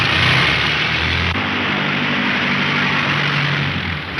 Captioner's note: engine droning